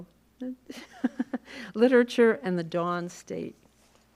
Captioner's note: laughs